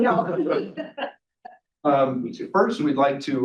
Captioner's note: all chuckling